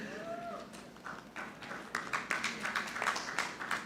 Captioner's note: audience clapping